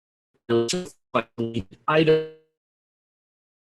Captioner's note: robotic sounds